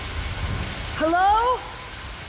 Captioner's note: echoing